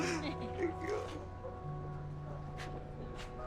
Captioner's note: gentle crying